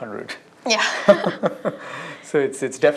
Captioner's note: laughter